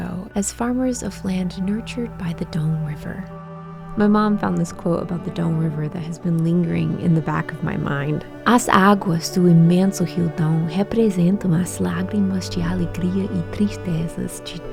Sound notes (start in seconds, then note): 8.4 in Portuguese